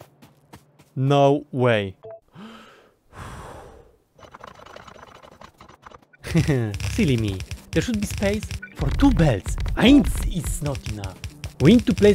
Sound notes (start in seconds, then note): 2.3 inhale in Russian